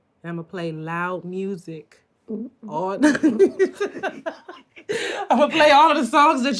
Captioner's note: laughs